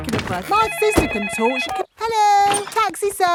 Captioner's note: cellphone ringing